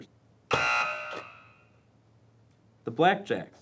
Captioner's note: buzzing